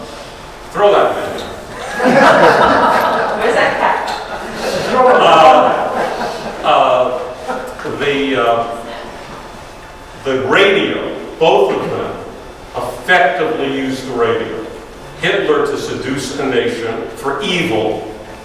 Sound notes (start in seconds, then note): 1.6 audience laughs